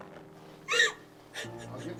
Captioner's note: Nellie sobs